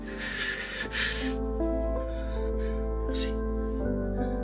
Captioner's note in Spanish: Sollozos